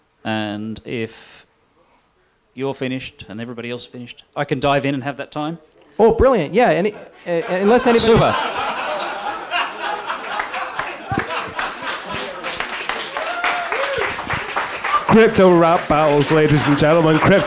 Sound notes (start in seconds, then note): 7.4 laughter; 12.4 applause